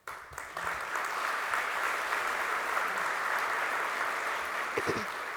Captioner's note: applause